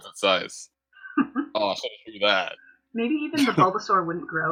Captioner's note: laughter